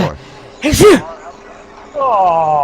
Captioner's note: sneeze